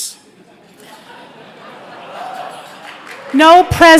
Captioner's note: light applause